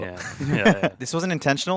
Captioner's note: chuckling